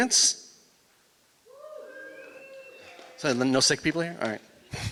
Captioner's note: applause